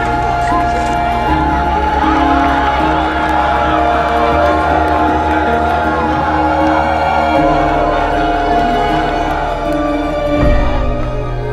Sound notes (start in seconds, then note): 3.4 roaring crowds